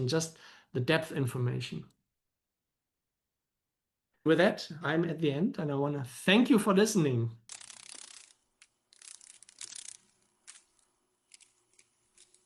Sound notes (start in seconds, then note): 8.8 sounds of a dragon fly